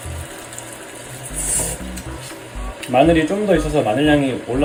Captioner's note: slurping